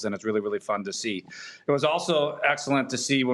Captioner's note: none